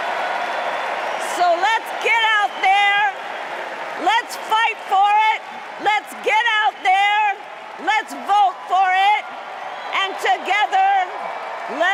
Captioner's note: cheers and applause